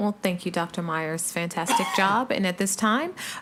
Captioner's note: attendee coughing